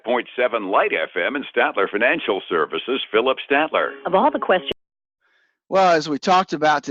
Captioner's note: radio